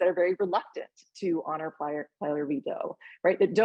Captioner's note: speaking Spanish